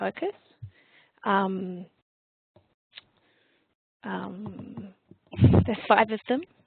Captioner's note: long pause